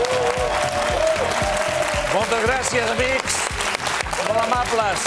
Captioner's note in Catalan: aplaudiments